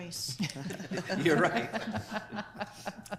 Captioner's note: staff members laugh